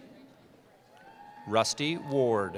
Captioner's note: cheering